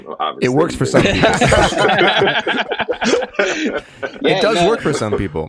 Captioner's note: all laughing